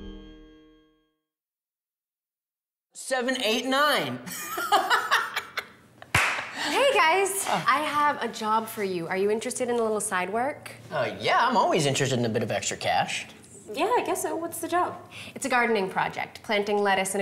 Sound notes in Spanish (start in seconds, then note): 4.3 risas